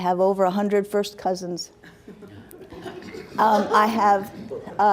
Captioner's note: laughs